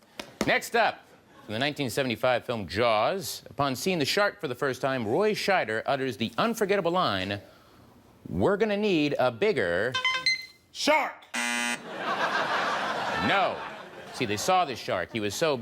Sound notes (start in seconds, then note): 10.0 music trills; 11.3 buzzer sounds; 11.8 crowd laughs